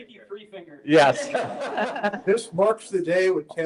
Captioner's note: laughter